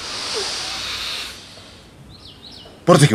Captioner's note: he Inhales